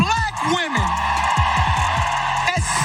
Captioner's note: applause